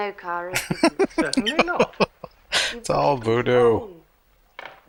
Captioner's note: laughing